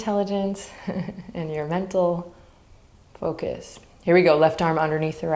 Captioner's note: chuckles